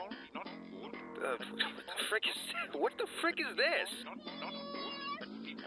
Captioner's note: stutters